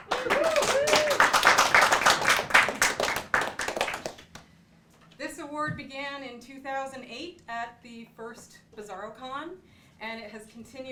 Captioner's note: applause